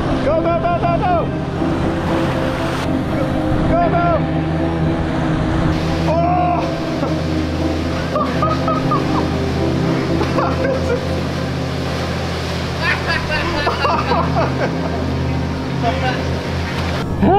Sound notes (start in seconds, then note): 7.8 laughs; 12.7 both laugh